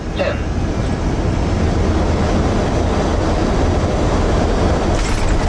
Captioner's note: aeroplane landing